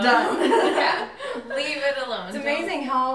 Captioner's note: everyone laughing